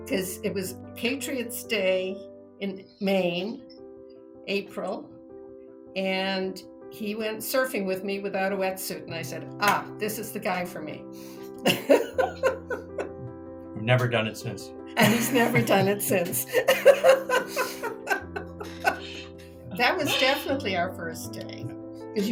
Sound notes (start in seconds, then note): 11.7 laughs; 15.0 laughing; 17.2 both laughing